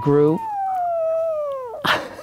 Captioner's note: puppy snores loudly; Steve laughs